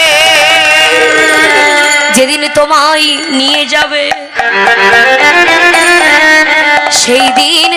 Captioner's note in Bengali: চিৎকার করা